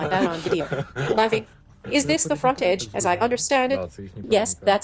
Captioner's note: laughing